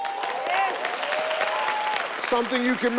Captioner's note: audience applauding